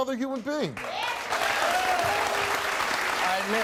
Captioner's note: audience clapping